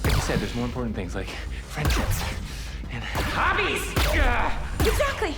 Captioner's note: grunts